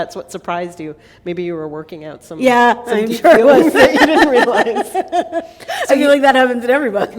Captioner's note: laughter